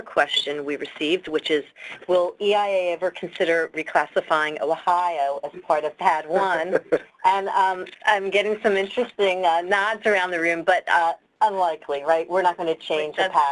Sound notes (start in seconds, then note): 6.5 laughter